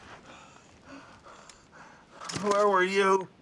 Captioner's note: breathing heavily